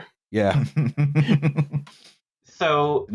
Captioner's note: laughter